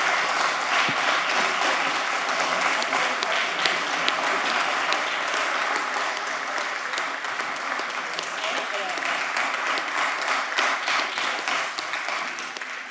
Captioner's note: applause